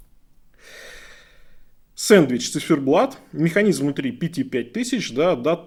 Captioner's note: sighs heavily